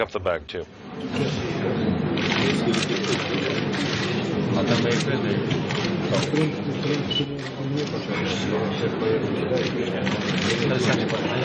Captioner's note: background noise and comments